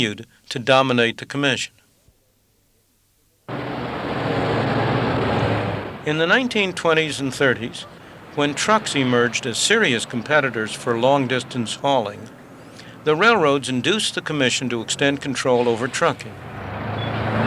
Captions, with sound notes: dominate the Commission. (truck engine) In the 1920s and 30s, when trucks emerged as serious competitors for long distance hauling, the railroads induced the Commission to extend control over trucking.